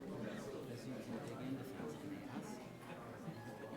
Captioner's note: people chattering